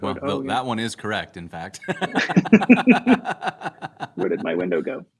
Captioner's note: laughter